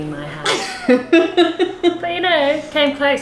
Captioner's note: laughing